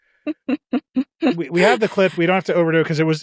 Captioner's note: chuckles